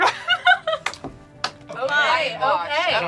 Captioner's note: laughs; claps